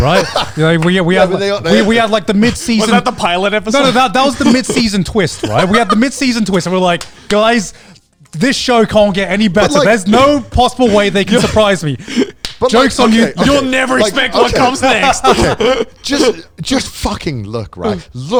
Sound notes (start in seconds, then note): 0.0 laughing; 15.1 laughing